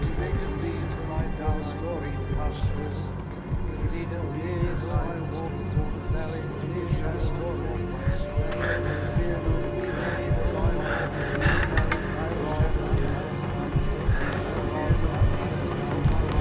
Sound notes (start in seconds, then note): 10.1 heavy breathing